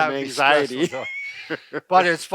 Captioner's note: men laughing